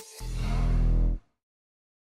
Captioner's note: logo whooshing